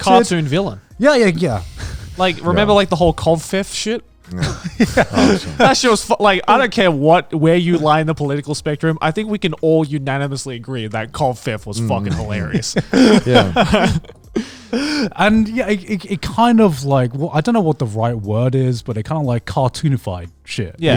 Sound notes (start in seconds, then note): 4.3 laughing; 11.8 laughing